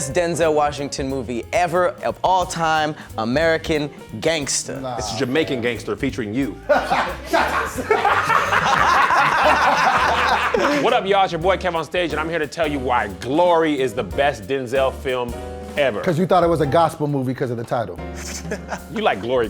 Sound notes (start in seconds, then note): 6.6 loud laughing; 8.3 all laughing; 18.2 soft chuckling